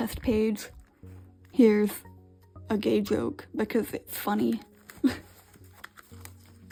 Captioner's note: laughs